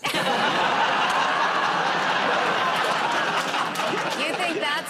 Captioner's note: laughter